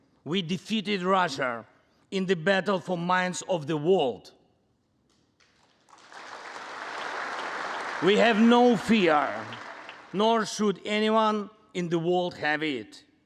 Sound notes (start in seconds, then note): 5.4 congress applauding